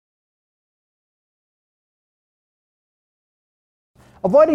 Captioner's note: silence